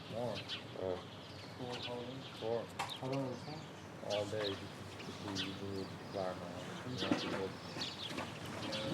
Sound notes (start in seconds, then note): 1.5 men speaking faintly